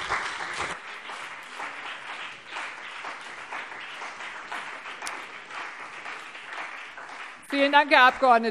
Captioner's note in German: Beifall BÜNDNIS 90/DIE GRÜNEN und CDU